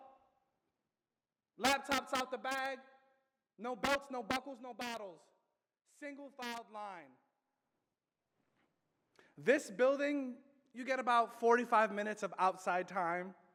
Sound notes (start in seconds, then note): none